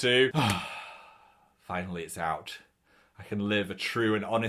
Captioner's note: sighs